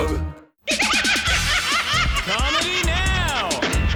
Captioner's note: laughing